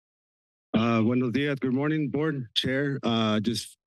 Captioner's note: foreign language